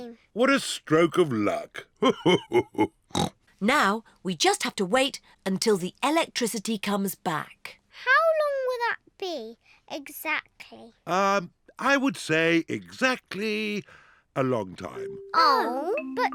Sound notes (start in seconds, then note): 1.2 laughs; 3.1 snorts